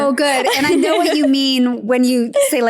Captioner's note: laughs